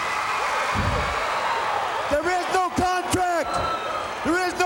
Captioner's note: crowd cheering